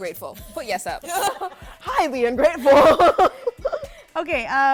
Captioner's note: laughter